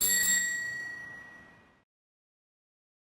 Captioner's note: bell ringing